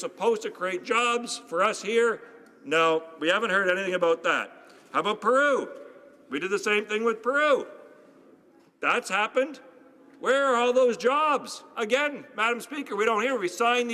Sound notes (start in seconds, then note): none